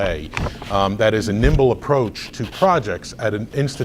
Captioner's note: rustles papers